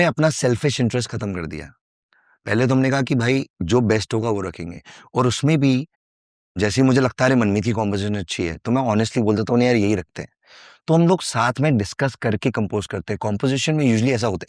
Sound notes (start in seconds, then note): 3.6 non-english speech